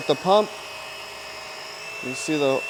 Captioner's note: pump whirring